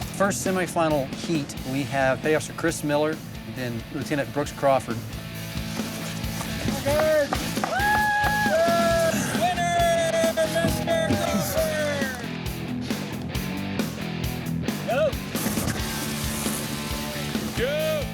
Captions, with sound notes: First semifinal heat we have bay officer Chris Miller and Lieutenant Brooks Crawford. (crowd cheering) Winner, Mr. Crawford! (rock music) Go!